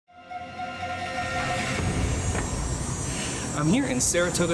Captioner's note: machinery buzzing